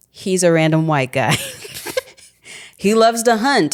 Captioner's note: chuckling